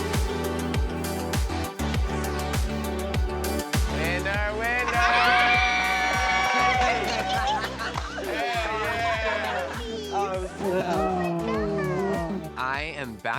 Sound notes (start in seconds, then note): 6.2 shrieking; 10.8 overlapping chatter